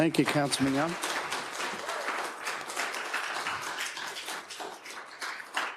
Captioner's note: attendees applauding